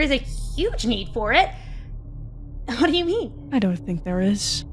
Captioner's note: as MYSTERIOUS VOICE